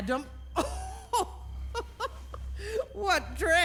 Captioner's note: laughs